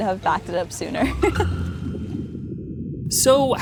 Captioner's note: chuckles